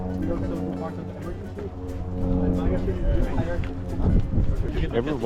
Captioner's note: helicopter sound